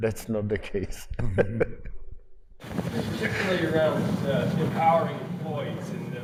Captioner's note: laugh